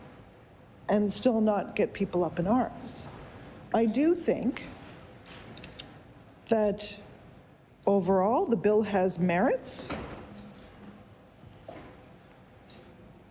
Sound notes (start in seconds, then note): none